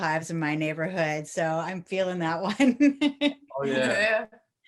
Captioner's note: chuckles